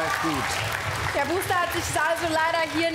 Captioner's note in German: Applaus